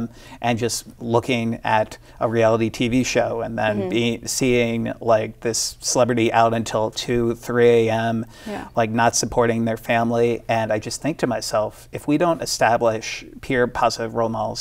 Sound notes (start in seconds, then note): none